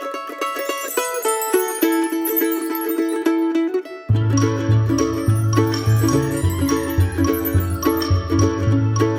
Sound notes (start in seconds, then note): 0.4 sparkle noise; 4.9 sparkle noise; 6.5 whimsical children's music